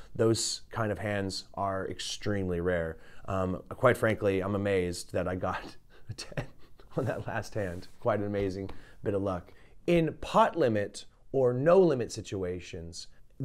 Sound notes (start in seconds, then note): 6.0 laughs